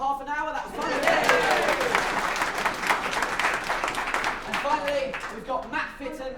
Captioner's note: applause